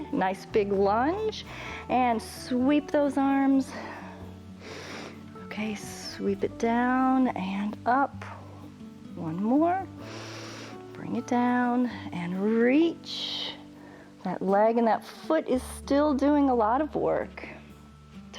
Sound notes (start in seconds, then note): 10.0 inhales